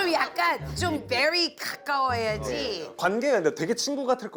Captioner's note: super serious